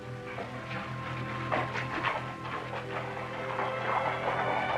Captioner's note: hooves clopping